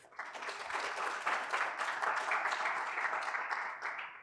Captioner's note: applause